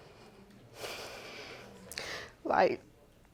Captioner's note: sighs; voice breaking